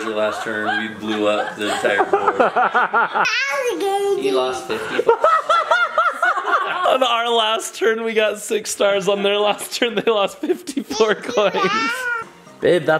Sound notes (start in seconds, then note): 2.6 laughing; 5.2 laughing hysterically